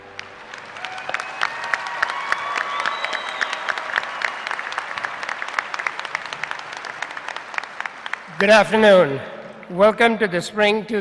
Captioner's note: applause